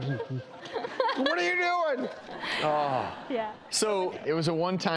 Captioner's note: laughter